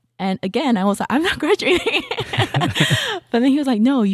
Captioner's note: laughing